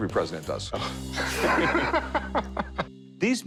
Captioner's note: laughter